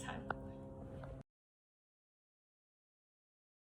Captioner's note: silence